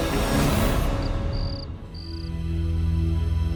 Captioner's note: crickets chirping